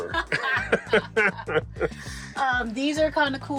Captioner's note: both laughing